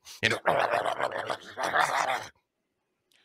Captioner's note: growls